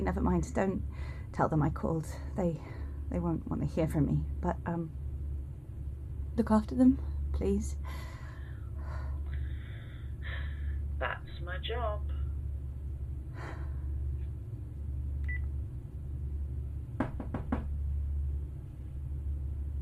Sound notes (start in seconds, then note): 13.3 sighs; 15.2 phone beeps; 17.0 knock at door